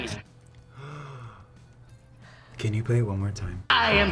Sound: gasps

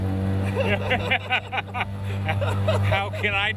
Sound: both laughing

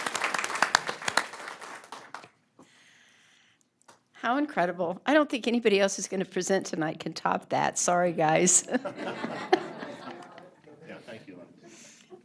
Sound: applause

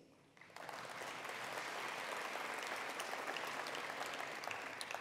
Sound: attendees applauding

